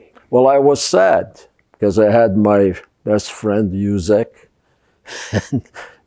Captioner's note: laughing